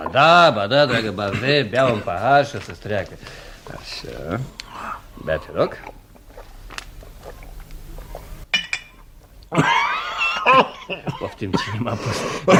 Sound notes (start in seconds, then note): 9.4 sound - coughs